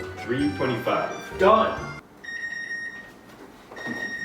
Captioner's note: beeps